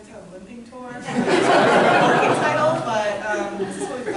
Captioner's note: loud laughter